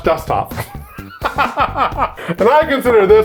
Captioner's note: laughing